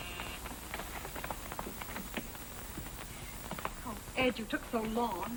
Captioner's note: doorbell